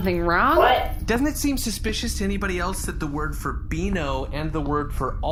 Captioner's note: pacing